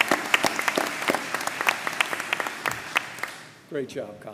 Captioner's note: applause